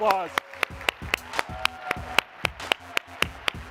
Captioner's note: audience claps and cheers; host claps; slow techno music